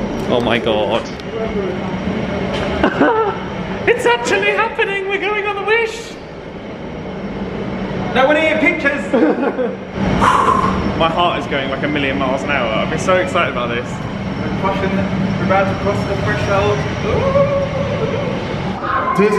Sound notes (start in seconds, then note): 2.8 laughs; 10.0 exhales